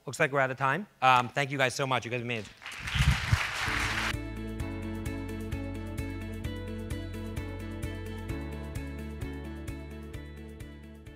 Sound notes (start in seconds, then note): 2.4 audience applauds; 3.4 soft music